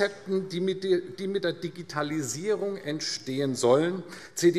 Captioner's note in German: none